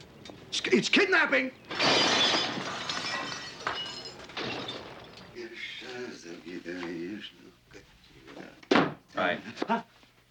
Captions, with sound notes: It's, it's kidnapping. [dishes crashing] (SINGING) [russian] Hi. Hah?